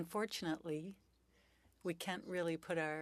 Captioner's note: speaking French